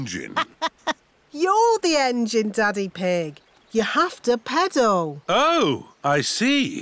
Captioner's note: laughs